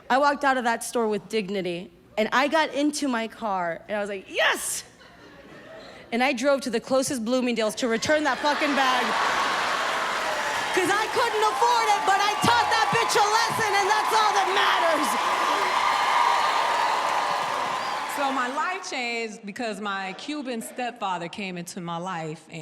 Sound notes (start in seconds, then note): 8.1 audience laughs; 15.3 audience cheering and laughing